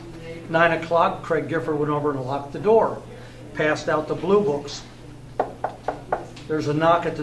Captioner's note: knocks on desk